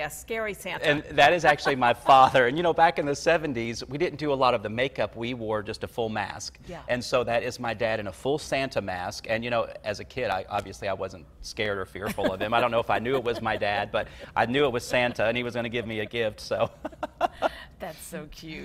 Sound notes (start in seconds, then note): 1.3 laughs; 12.0 laughs; 17.2 both laugh